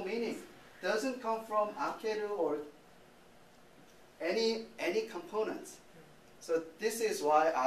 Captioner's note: speaking japanese